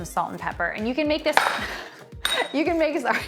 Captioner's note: chuckles